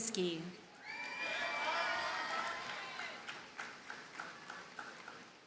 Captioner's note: audience cheers and applauds